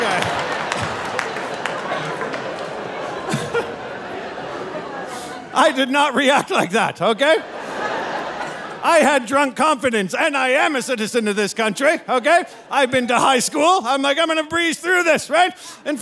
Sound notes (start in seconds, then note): 0.0 audience laughing; 3.2 laughing; 7.6 audience laughing